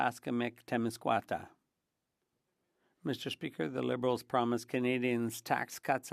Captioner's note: speaking French